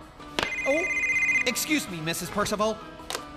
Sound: cell Phone Ringing

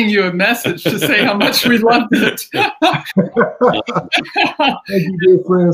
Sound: laughing

